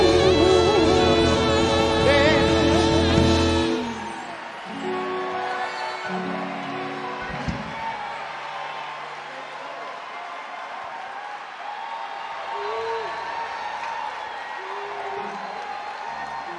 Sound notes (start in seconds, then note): 4.5 audience cheer and clap